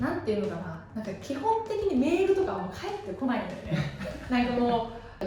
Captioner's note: laughs